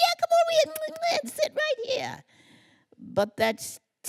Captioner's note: kissing noises